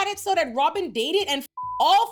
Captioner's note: beep